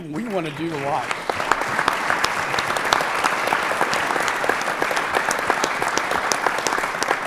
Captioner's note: applause